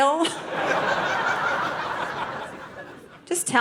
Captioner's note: audience laughing